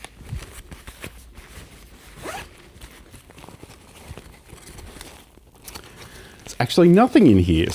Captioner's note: unwrapping noises